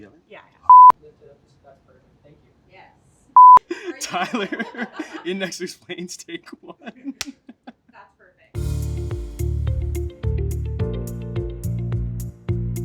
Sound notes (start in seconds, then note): 0.7 beeps; 3.4 beeps; 3.6 laughs; 8.6 upbeat music